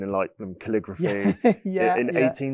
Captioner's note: laughs